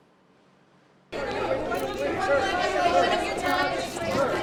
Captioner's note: reporters shouting